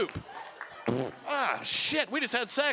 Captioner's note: imitating flatulence